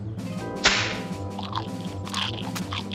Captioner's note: pants snap; gulping; carrots crunching